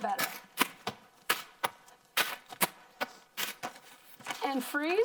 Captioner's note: plastic popping and crinkling